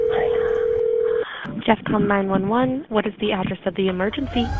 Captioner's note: phone ringing